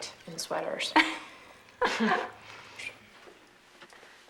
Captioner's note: laughing